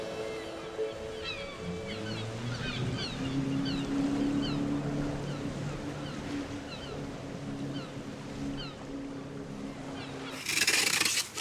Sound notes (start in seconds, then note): 1.6 boat motor churning; 10.3 knife scraping on wood